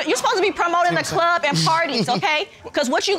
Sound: giggling

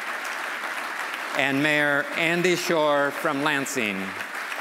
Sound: applause

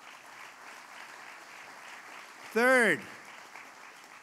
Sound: applause

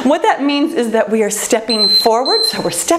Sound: timer beeping

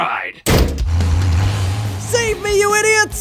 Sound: door rattles; truck engine roaring

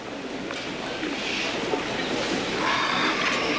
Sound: sighs

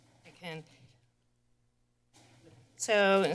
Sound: pause

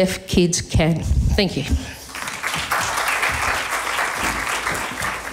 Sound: applause

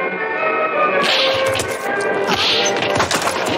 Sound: punches

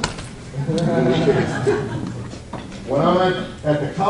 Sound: audience laughs

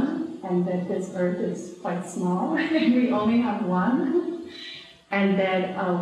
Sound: laughs

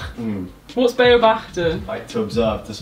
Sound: speaking in foreign language

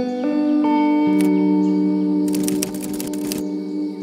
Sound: typing

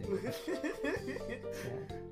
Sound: laughs

